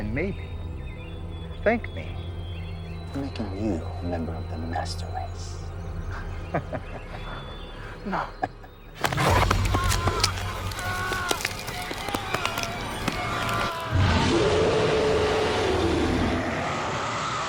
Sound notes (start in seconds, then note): 6.1 vampire laughing; 6.4 intense music continues; 9.5 scary music; 9.6 soldier screaming; 13.1 vampire roaring